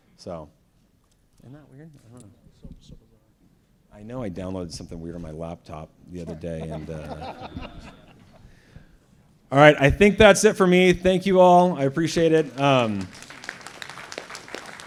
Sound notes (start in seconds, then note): 6.3 laughter; 12.0 applause